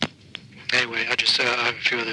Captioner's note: phone clicking